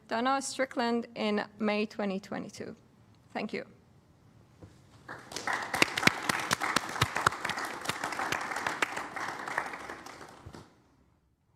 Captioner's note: applause